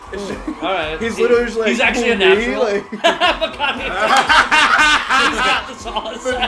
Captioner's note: laughter; laughter